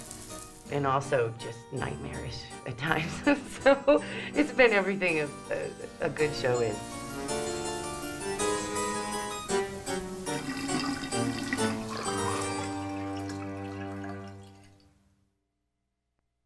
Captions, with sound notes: And also just nightmarish at times. So it's been everything a good show is. [eerie organ music] [drain gurgling]